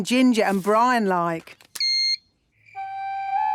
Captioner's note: beep!